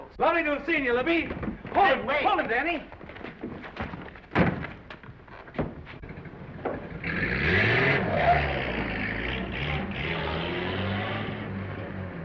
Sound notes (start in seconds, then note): 3.2 door slamming; 5.6 engine rumbling